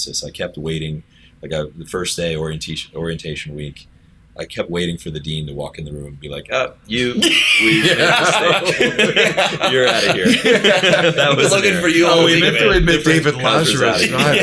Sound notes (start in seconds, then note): 7.1 laughter